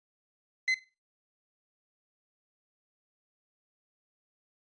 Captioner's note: beep